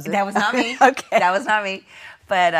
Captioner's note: laughing